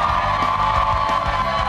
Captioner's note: cheers and applause